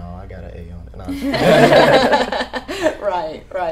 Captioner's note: laughing